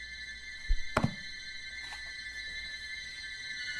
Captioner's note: book thuds on nightstand